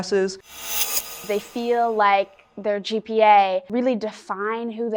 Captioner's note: graphic hisses